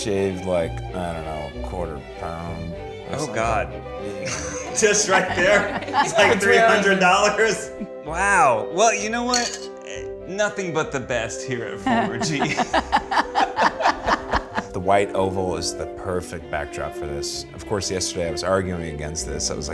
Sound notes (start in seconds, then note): 13.6 laugh